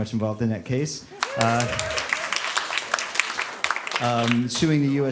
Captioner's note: applause